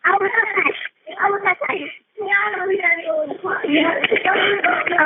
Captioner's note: muffled child speaking